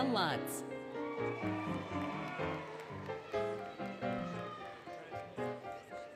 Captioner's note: applause, Cheering, Music